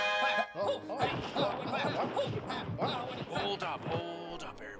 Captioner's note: window crashes as the 80's Batman transition sting plays; sounds of muffled violence and scuffling